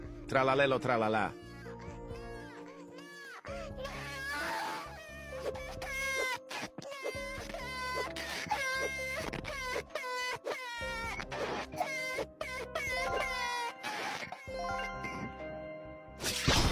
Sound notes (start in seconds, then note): 5.7 crying; 8.6 crying